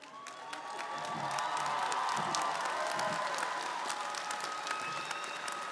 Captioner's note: audience cheering & applauding